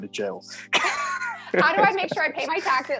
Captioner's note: laughing